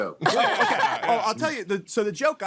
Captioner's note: laughing